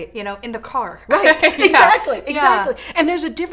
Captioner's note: laughs